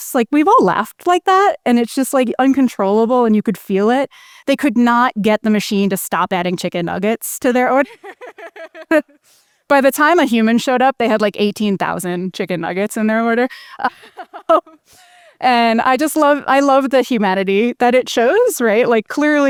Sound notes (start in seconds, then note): 7.8 laughs; 13.9 laughs